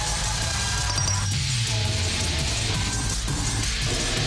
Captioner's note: metal glints; intense music continues